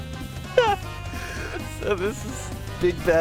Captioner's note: honk